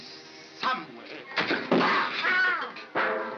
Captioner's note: Barnaby yelps; mop splatters; pan clangs; thump